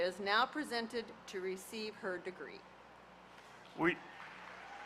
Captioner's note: applause